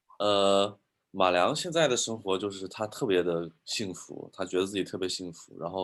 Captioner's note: speaking in foreign language